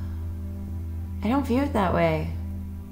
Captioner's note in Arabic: تتنهد